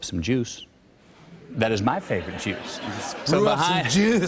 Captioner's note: laughter